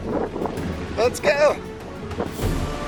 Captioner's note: wind rushes